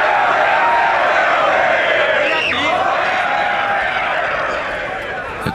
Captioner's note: fans yelling and singing